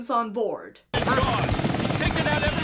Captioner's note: helicopter blades whirring